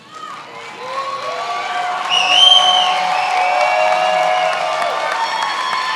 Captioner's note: attendees applauding and cheering